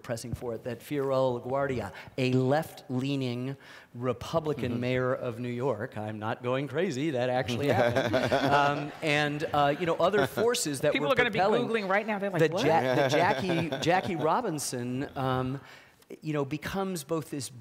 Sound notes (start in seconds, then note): 9.1 audience laughing